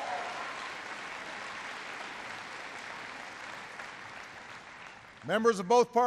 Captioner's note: applause